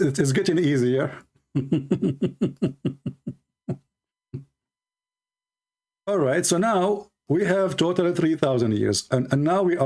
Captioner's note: Ketawa